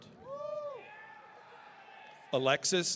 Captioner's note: audience cheering